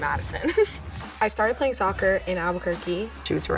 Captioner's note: giggles